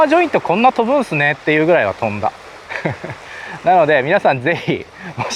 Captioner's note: flies